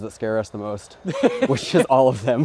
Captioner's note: laughing